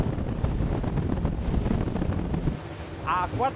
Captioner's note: wind